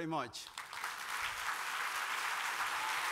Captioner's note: applause